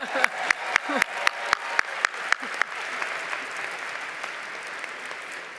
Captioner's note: applause, cheering